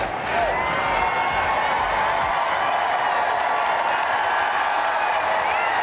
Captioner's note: cheers and applause